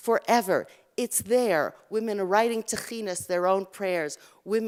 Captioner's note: Hebrew